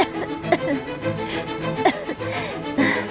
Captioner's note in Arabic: سعال